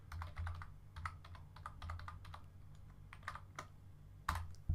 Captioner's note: keyboard typing